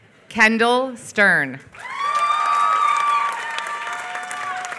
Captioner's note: applause